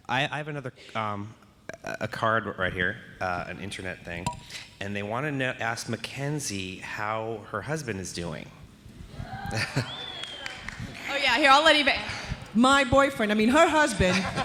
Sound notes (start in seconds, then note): 9.2 audience cheering